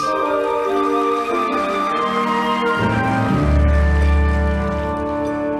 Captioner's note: audience applauding